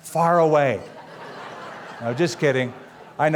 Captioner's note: laughter